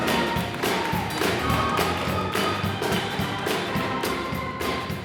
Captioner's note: audience clapping